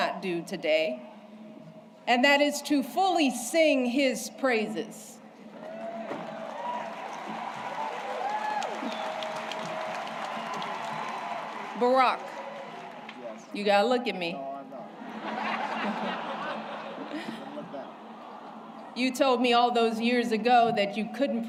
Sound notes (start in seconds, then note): 10.6 applause